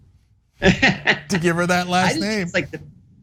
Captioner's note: laugh